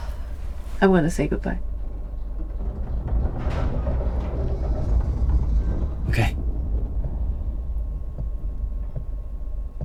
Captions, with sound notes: I'm gonna say good bye... [Ship rumbles and creaks] Okay